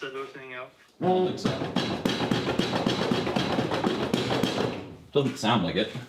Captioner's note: hammer thumping